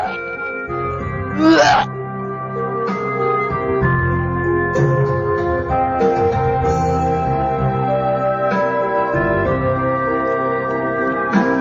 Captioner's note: retches